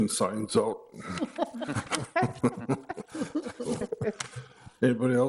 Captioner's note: group laughing